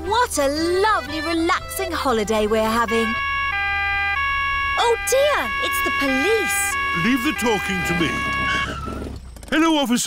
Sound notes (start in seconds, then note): 2.6 siren wailing